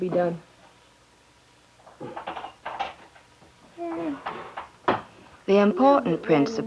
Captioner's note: rustling